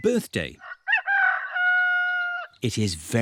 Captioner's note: roster crows